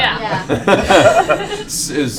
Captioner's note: laughter